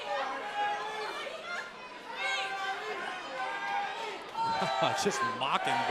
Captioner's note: crowd cheering